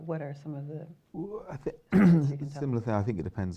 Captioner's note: clears throat